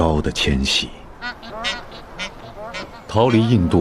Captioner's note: geese honking